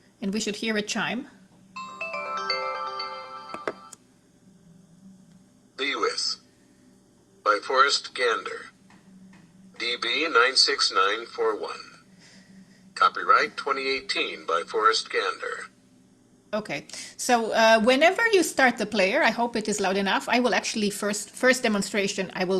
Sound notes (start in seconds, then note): 1.8 device chimes